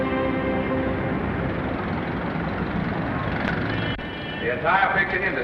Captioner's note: dramatic sentimental music; traffic rumbling